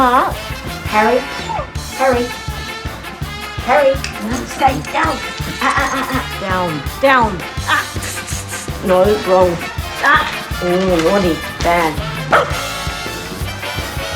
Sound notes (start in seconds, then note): 11.6 bark!